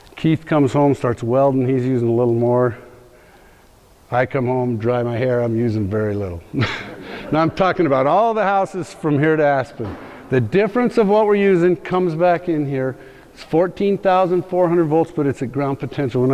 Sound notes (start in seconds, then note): 6.5 laughs